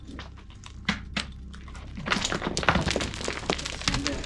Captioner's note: rock crumbling